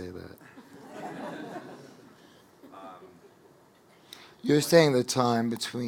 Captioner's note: audience laughing